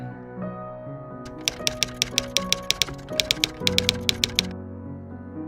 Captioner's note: typewriter keys clicking